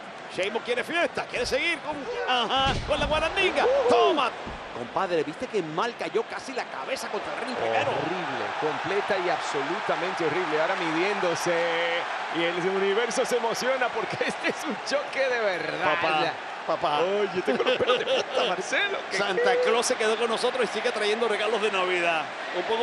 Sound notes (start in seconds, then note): 14.1 laugh